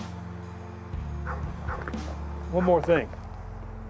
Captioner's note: dog barking